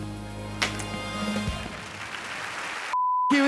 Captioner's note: chalk smacks floor; audience cheers and applauds